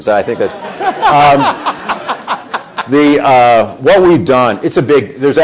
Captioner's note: people laughing